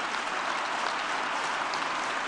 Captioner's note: applause